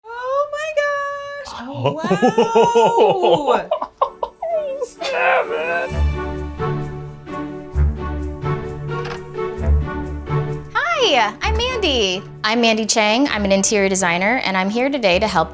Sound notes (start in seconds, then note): 1.7 laughing; 6.1 calm music